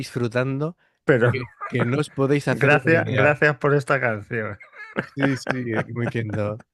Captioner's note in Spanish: risas